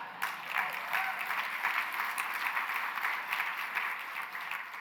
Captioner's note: applause